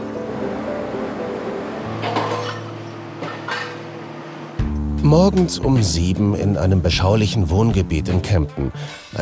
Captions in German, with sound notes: (Dynamische Musik) (Scheppern) Morgens um sieben in einem beschaulichen Wohngebiet in Kempten.